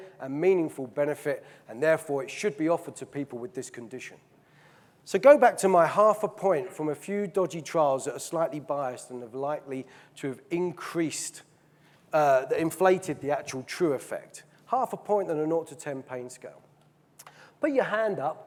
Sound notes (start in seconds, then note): none